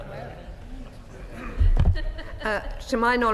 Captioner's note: laughter